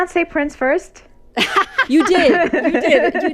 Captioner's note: laughter